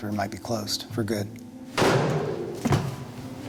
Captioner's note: bang